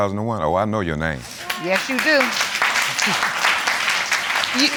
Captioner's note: audience applauding